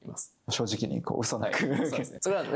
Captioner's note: laughs